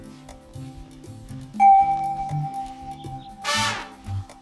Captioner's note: doorbell